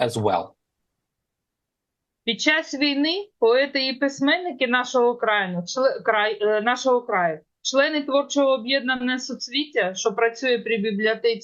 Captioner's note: foreign language